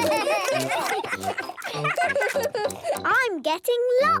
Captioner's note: giggling, chewing